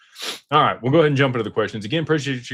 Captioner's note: snorts